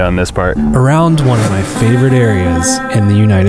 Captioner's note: voiceover